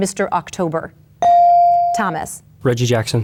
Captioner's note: bell dings